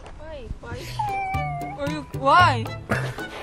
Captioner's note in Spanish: Llora